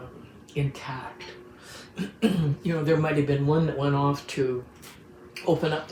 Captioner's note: clears throat